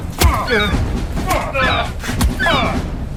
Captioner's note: shovel thumping; gull squawking